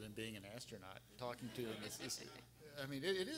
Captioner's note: everyone laughing